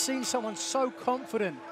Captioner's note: bell ringing